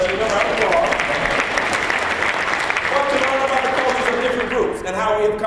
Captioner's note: applause